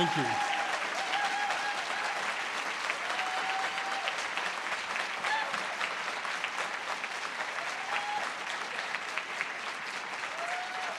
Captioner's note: audience applause